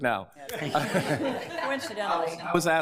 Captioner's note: laughter